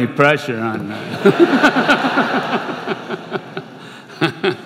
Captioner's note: laughter